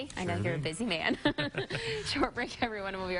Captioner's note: chuckling